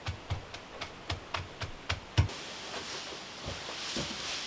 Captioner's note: tapping